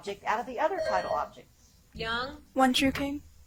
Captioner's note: buzzer chimes